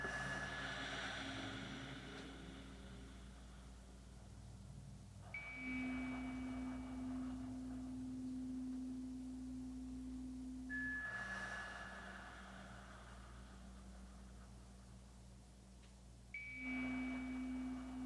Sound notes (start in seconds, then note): 2.8 chimes ringing continues; 2.8 slow breathing continues; 12.8 chimes ringing continues; 12.8 slow breathing continues